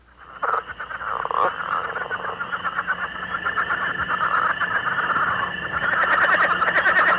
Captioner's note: leopard frog call